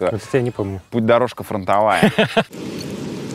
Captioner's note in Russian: Костомаров заливается смехом